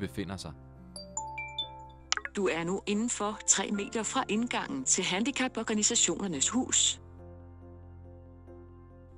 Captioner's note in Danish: Blip lyd